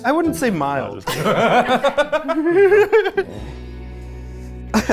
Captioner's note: people laughing; pensive instrumental music